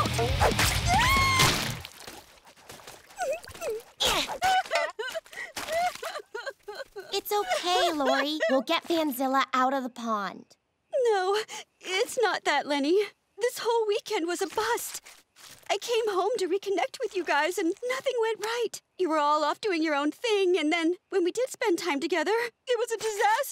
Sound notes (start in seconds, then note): 0.3 yelling; 3.1 crying